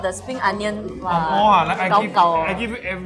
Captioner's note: both converse in gibberish